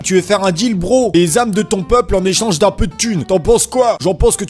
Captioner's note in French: voix de racaille